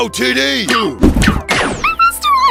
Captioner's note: zaps